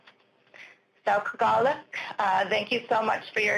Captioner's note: speaking Unangam tunuu